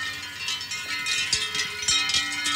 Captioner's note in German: Kuhglocken